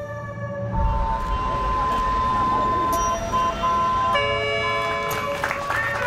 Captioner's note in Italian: rumori stradali